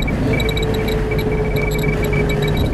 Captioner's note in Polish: Klikanie liczników Geigera